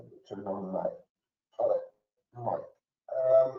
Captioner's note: murmurs